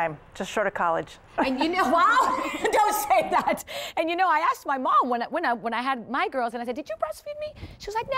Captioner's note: laughing